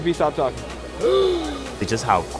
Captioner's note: offended gasp